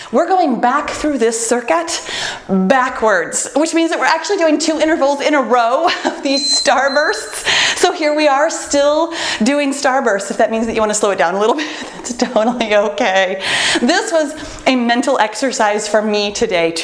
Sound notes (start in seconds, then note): 6.2 timer beeps; 12.0 laughs